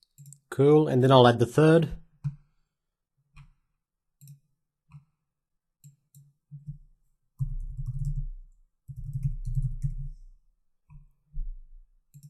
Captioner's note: silence